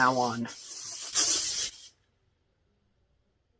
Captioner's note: spray hisses